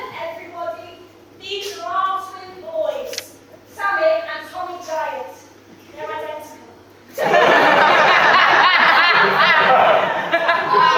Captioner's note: audience laughs